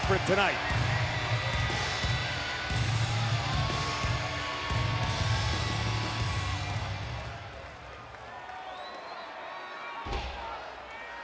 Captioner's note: applause